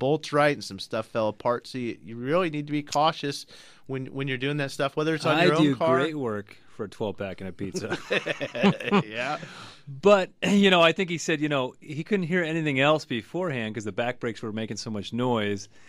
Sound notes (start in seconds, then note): 5.2 both laugh